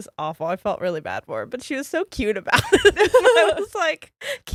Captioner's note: giggles